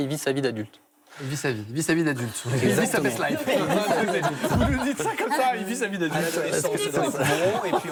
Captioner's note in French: rires